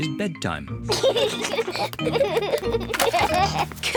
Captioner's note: both giggle